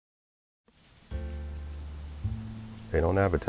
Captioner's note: rainfall and city noises